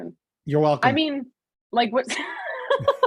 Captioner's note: laughs